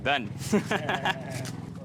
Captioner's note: laughs